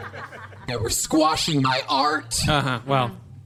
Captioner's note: audience laughter